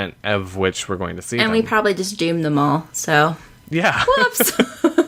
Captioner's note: laughs